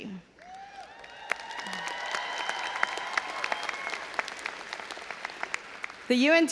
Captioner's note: audience applauding and cheering